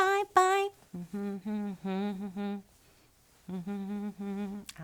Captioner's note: humming